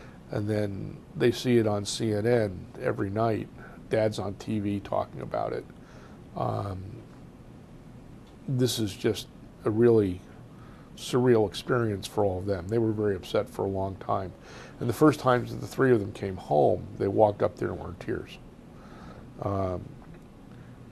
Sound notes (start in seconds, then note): 5.5 pauses for 3 seconds; 18.4 pauses for 3 seconds